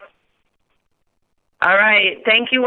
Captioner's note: silence